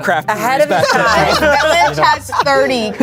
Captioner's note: everyone laughs